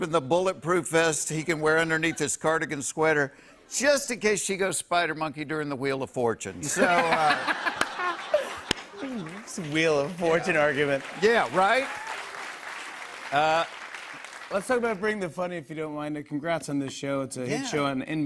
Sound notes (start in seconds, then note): 6.6 laughter; 11.7 applause